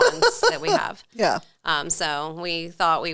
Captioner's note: laughing